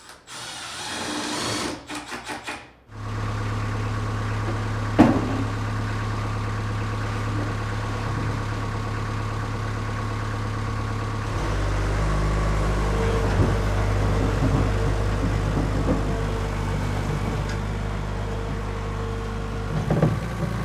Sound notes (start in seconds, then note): 0.0 drill whirring; 3.2 engine whirring; 5.0 cabinet thudding; 12.0 engine whirring